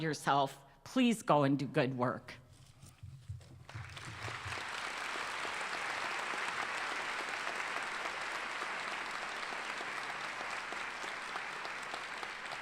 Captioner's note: applause